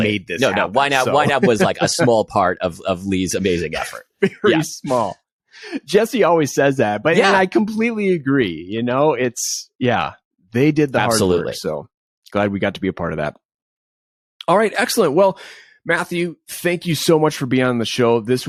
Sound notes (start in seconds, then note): 3.4 laughs